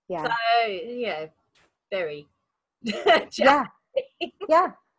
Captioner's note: laughs